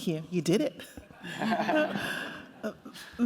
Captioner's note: laughter